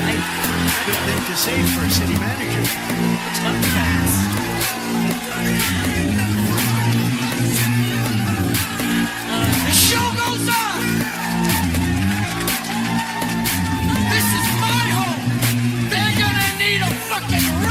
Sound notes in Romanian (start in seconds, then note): 3.1 Aplauze; 11.1 Aplauze